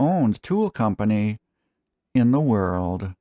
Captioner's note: dramatic pause